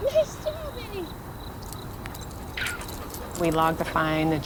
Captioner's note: crickets chirping